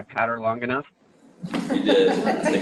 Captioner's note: laughter